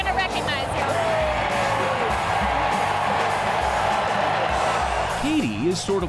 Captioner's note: crowd cheers; driving music continues